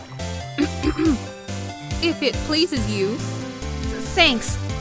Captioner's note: ahem